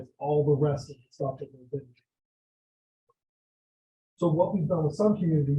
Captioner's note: audio drop